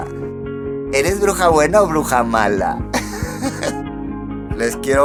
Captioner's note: laughs in iconic witch